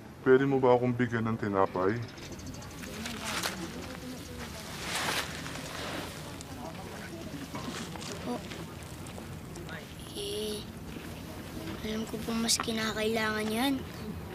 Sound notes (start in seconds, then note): none